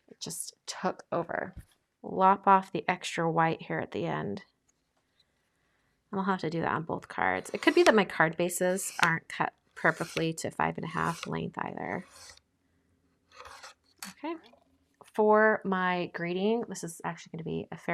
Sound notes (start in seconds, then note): 12.0 cutter swishing